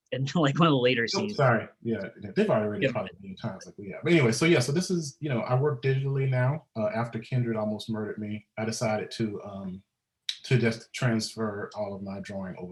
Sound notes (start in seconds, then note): 2.4 murmurs